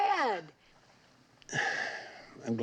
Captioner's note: sighs